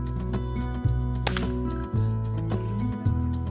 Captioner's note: crack!